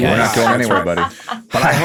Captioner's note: laughs